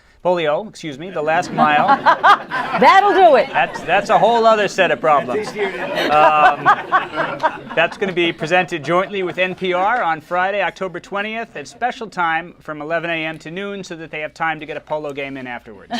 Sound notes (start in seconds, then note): 1.8 laughter; 15.7 laughter